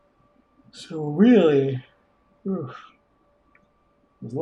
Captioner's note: yawning